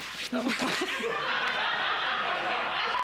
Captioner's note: éclats de rire